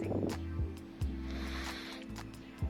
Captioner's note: inhale